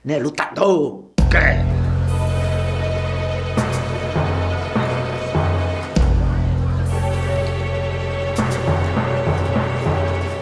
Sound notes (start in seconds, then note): 1.2 tense instrumental music; 6.8 indistinct conversations